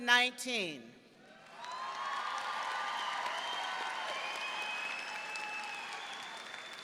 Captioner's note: audience cheering and clapping